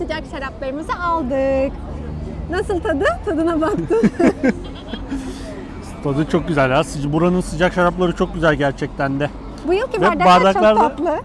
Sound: laughter

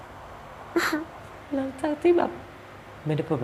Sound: crying voice

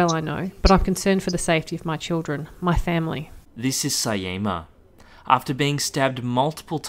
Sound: voiceover

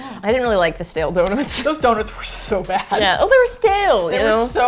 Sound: both laugh

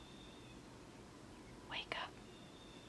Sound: whispers

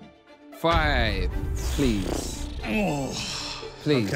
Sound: groaning

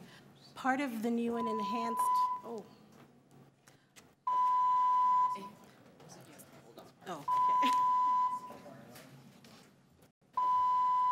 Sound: beeping

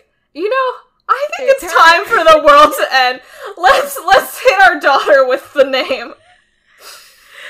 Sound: both laugh

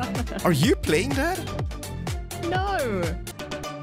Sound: laughs

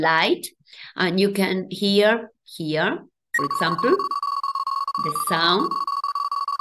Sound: sonification plays

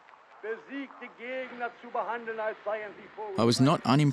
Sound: German spoken audio

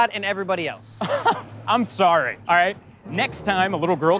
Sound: laughs

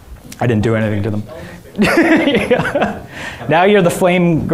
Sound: laughs

